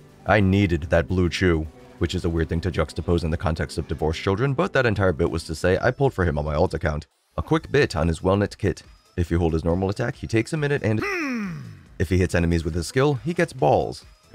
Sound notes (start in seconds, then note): 11.0 grunt